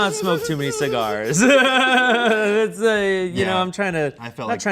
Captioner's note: everyone laughs